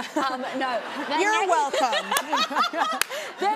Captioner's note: laughs